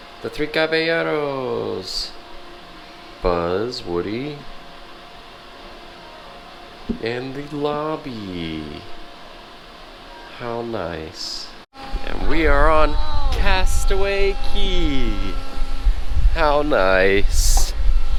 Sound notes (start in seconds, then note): none